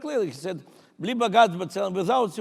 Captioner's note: speaking in foreign language